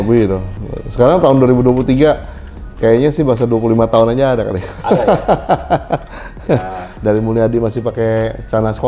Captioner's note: laughs